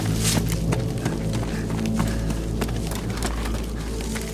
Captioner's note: runner panting